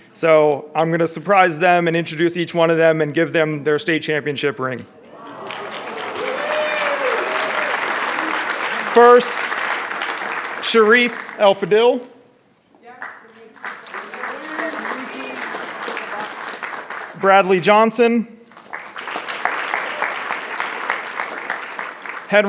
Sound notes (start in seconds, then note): 5.0 audience cheering and clapping; 13.0 audience cheering and clapping; 18.4 audience clapping